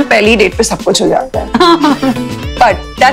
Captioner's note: laughs